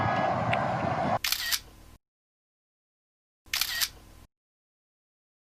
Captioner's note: camera shuttering